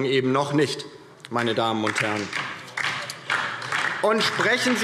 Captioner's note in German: Beifall DIE LINKE